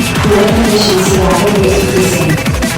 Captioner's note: cooling efficiency rapidly decreasing